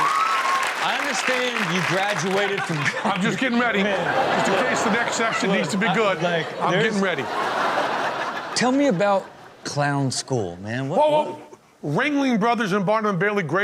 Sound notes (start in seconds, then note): 7.4 audience laughs